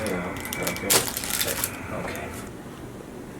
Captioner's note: bones cracking